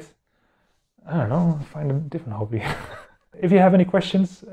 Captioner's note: laughs